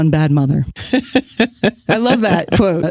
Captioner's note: laughs